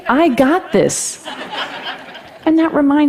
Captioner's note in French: Rires